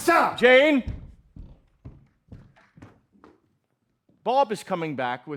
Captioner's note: footsteps